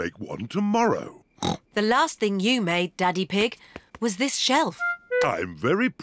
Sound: snorts

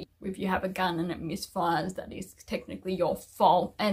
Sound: none

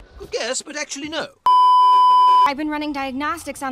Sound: beeeeeep

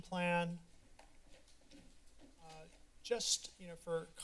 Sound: silence

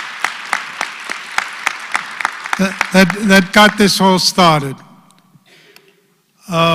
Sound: applause

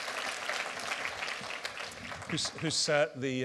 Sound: applause

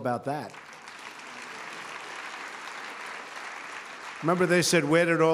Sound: applause

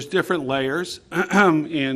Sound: clearing throat

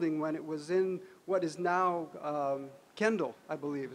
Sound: none

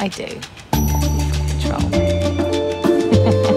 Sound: mutters; chuckles

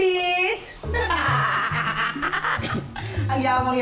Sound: laughs

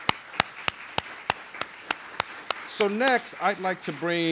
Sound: applause

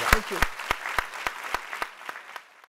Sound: applause

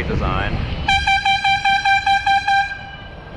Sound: airhorn

